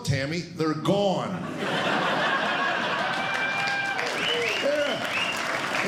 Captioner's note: laughter